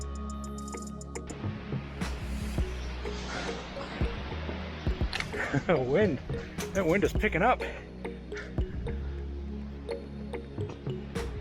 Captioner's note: laughs